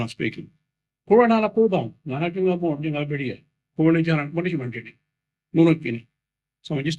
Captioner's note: Speaking in Noongar